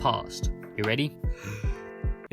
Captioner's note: inhale